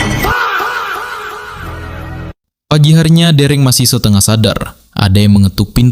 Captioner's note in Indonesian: berteriak